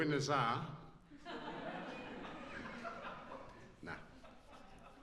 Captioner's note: laughs